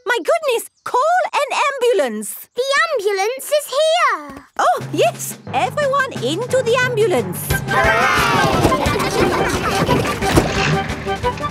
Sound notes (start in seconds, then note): 7.6 giggling